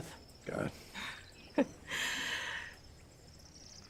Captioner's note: laughs